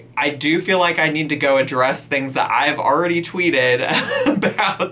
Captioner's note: laughs